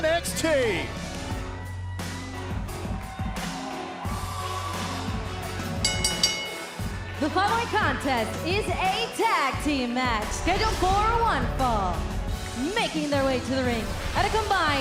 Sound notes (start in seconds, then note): 1.2 crowd cheering; 5.8 bell ringing